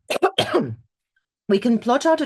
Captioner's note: clears throat